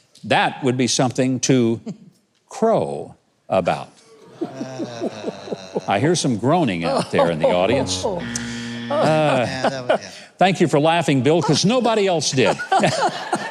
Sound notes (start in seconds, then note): 4.0 man groaning; 4.1 audience laughing; 7.5 buzzer buzzing; 7.9 laughing